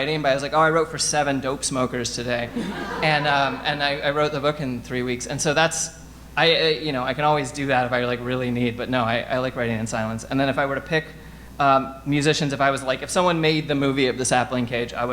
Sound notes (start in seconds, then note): 2.4 audience laughing